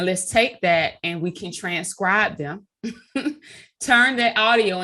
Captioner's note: chuckling